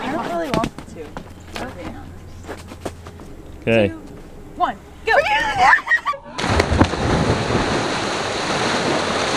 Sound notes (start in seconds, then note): 5.5 screaming; 6.3 splash